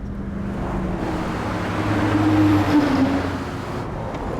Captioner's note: truck engine roaring